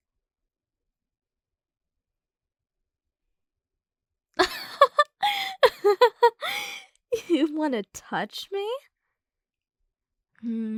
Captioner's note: soft laugh